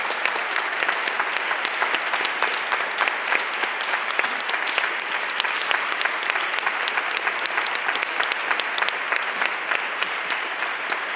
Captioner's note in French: applaudissements